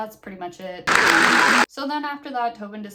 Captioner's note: applause plays